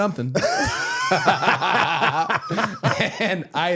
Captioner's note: both laughing